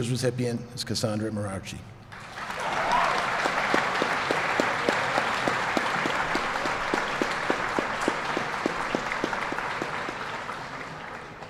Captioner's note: applause